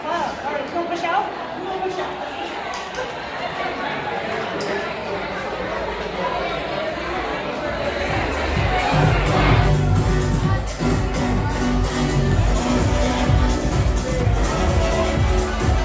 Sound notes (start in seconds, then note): 3.6 crowd of people talking and laughing; 10.1 electronic dance music